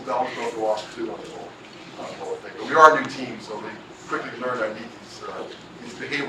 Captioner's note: laugh